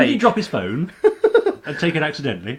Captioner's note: laughing